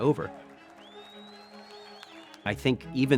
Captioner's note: crowds cheering; crowds clapping